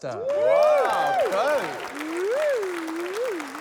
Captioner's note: applause